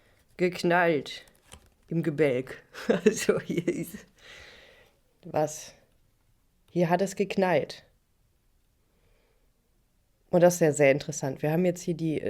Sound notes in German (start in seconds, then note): 2.7 gelächter